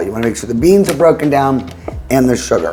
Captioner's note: appliance clicking